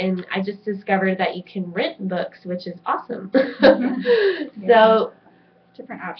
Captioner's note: laughs